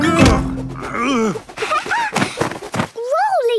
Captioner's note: laughing